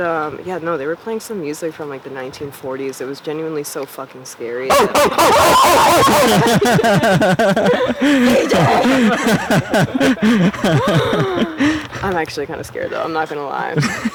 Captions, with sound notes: No, they were playing some music from the 1940s. It was genuinely so fucking scary. -[screaming] Oh, oh, oh. [laughing] CJ! I'm actually kind of scared, though. I'm not gonna lie.